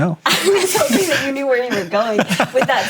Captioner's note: laughing